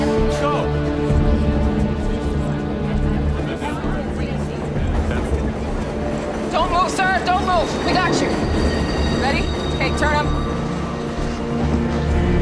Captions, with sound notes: - Let's go! - [muffled groaning] - Don't move, sir. Don't move. We got you. Ready? Okay, turn him.